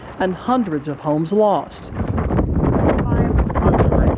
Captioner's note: wind blowing